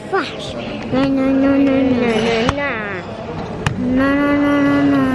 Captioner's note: babbling